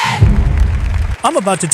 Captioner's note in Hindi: तालियाँ